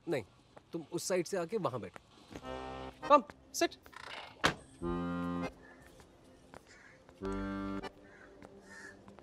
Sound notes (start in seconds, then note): 4.4 car door closes